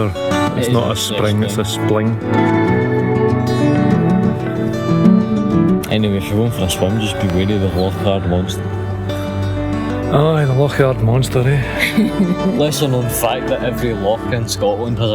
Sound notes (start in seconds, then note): 11.7 laughter